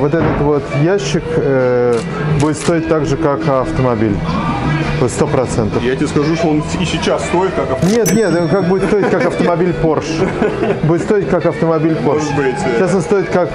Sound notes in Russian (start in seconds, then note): 10.3 смех